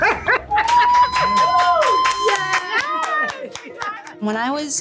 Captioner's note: cheers and clapping